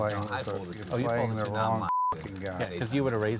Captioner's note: beep